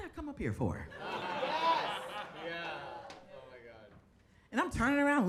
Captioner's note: audience laughing